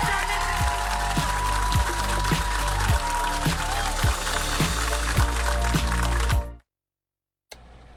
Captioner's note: applause